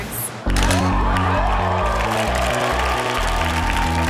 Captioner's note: crowd exclaims; camera snaps